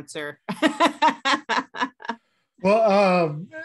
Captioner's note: laugh